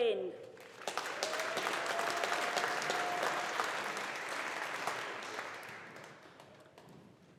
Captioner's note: audience applauding